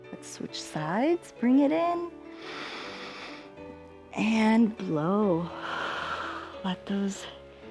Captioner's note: inhales; exhales